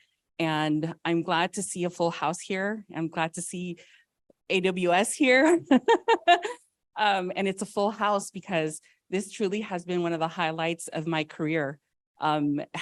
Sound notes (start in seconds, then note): 5.6 laughs